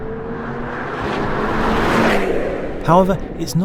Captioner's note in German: Walhalla-Rauschen